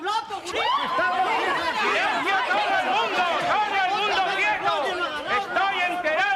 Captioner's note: general confusion